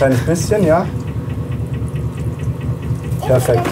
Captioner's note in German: Rattern der Waschmaschine